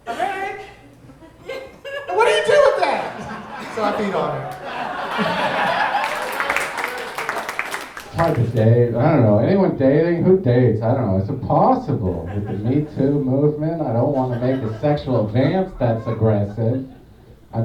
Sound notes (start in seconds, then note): 4.9 audience laughing